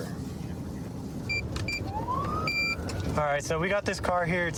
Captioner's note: buttons beeping